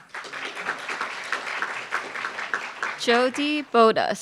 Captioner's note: applauds